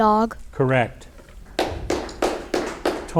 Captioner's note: audience applauding